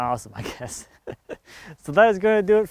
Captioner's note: laughing